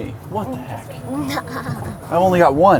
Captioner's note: laughs